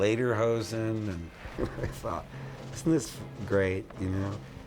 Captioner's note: chuckling